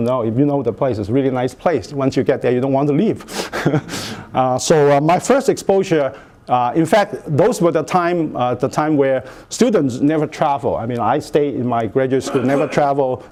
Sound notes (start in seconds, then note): 3.5 chuckles